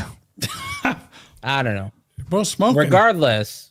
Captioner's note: laughter